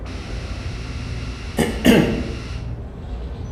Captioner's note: logan coughs